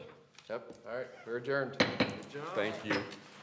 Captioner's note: gavel bang, bang